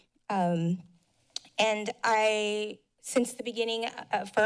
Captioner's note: mouth click